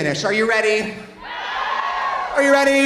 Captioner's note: audience cheering